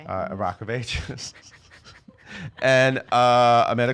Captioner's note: laughing